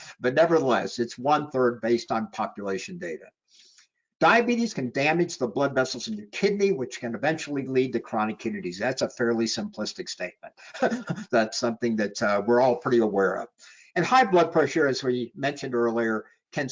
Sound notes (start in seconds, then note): 10.6 chuckling